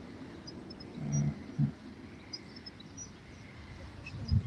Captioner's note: birds chirping